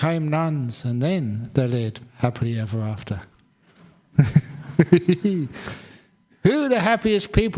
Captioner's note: chuckles